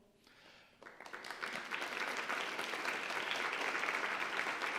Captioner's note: audience applauds